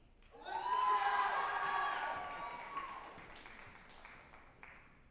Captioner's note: group applauding and cheering